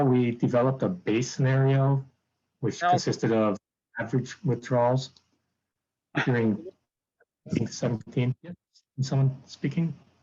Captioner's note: background noise interference